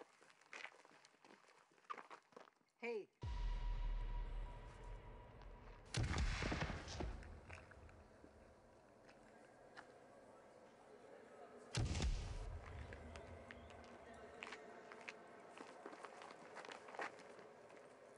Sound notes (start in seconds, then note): 3.2 dramatic music; 5.9 gun firing; 8.2 eerie music